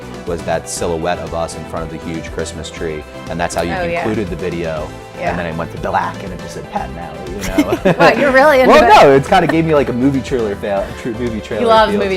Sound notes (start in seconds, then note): 4.2 pat; 7.4 laughs